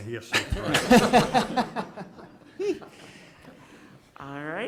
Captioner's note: members laughing